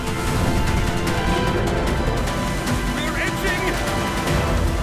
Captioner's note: dragon whooshing